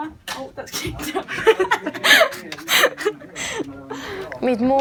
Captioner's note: laughing in the background